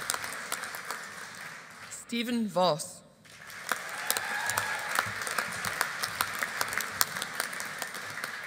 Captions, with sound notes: Steven Vause. (AUDIENCE APPLAUDING)